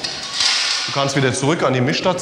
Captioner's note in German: Scheppern